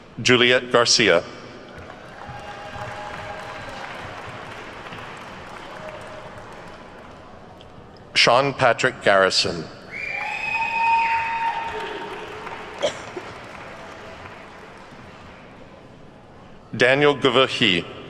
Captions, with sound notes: Juliet Garcia. (attendees clapping) Sean Patrick Garrison. (attendees whooping and clapping) Daniel Gavahi.